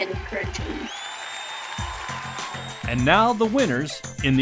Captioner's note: crowd applauding; crowd cheering